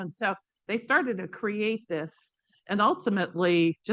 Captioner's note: none